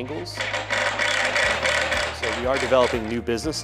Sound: drill clanking

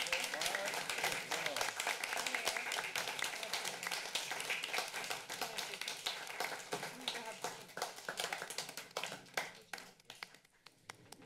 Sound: applause

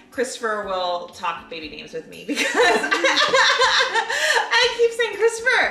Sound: laughing

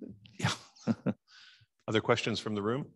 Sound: man chuckles

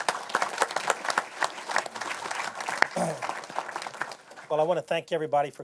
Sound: applause

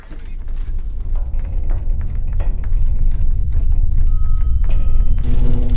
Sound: rumbling

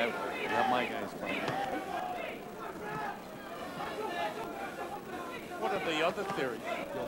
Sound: yelling from the audience

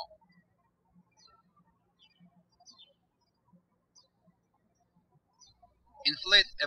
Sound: birds chirping

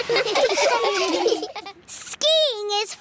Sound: laughing

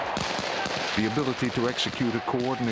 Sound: voiceover

